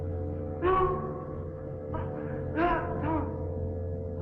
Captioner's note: foreboding music; Pepe whimpering